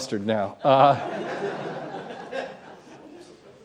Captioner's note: laughter